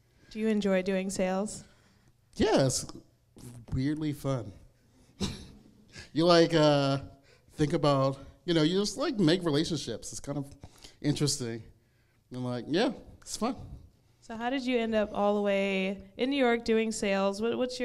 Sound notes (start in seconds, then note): 5.2 laughs